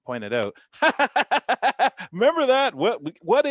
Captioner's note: laughter